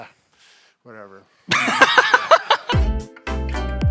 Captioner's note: laughing; upbeat music